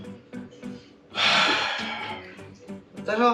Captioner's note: sigh